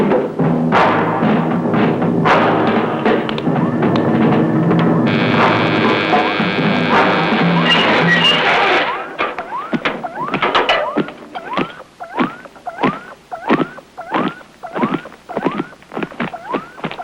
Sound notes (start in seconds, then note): 2.1 clicking; 5.4 buzzing; 9.5 electronic beeping